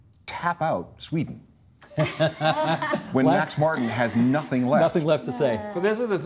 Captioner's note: all laughing